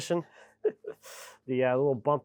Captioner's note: speaker laughing